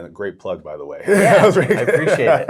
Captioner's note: laughs